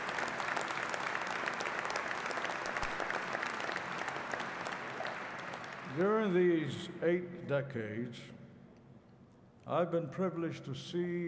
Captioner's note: applause